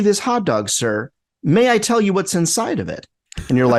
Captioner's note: laughs